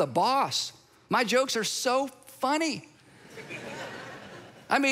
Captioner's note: congregation laughs